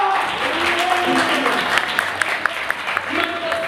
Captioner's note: imaginary audience applause